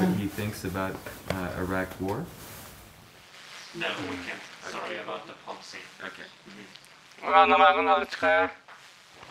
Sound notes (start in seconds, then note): 4.0 speaks in foreign language